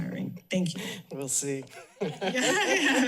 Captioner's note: laughing